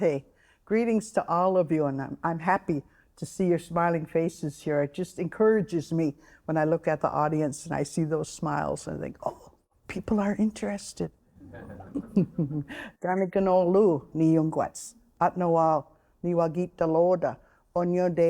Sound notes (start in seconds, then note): 11.4 all laughing; 12.8 speaking Oneida